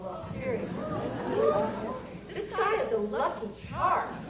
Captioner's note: audience cheers